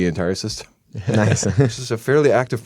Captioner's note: chuckle